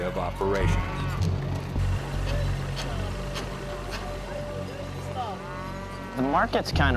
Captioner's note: market sounds